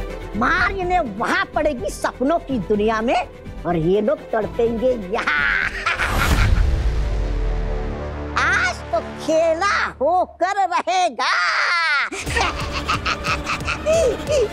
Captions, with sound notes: They'll be beaten there, in the world of dreams, and these people will suffer here. [giggles] Today, it will be a game of survival. [giggles]